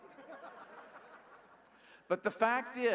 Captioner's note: laughing